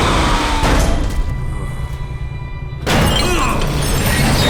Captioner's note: groaning